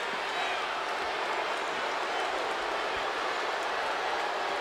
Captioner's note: crowd boos